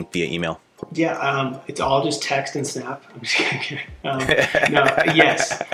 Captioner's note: laughing